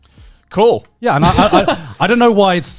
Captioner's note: Joey laughing